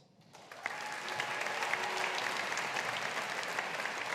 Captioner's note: audience applauding